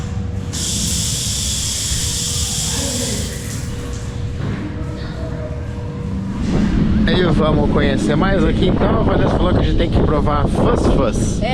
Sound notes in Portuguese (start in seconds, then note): 0.6 água corrente